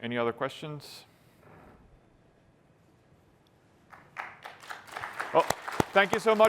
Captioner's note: applause